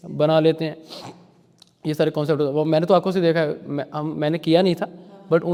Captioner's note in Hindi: नाक से की जाने वाली आवाज़